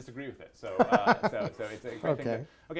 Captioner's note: laughs